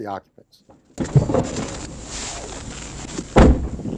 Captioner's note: car door closing